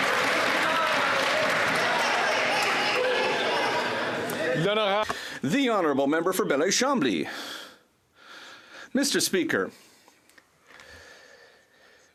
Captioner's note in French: applaudissements